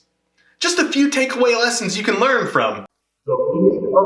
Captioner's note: sound effect